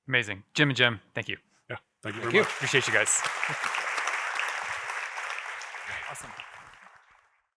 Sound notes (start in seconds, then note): 2.0 audience applauding